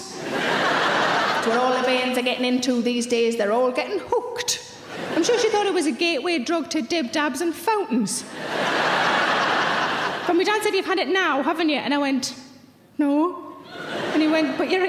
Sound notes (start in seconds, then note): 0.0 audience laughing; 4.9 audience giggling; 8.3 audience laughs; 13.6 audience giggles